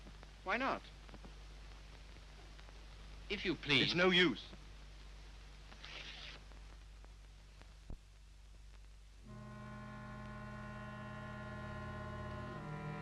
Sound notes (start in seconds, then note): 5.8 paper tears; 9.3 somber orchestral music